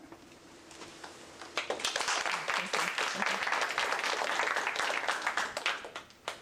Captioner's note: applause